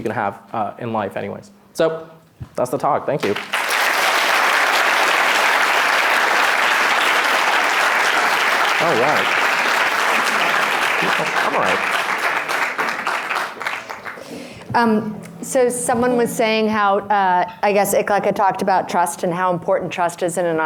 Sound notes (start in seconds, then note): 5.2 applause